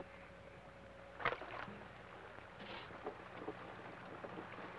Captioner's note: water splashes